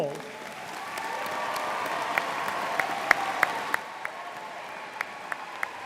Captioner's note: audience applauding and cheering